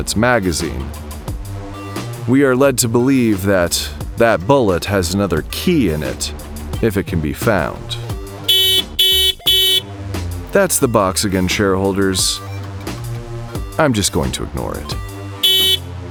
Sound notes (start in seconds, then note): 10.5 old school car horn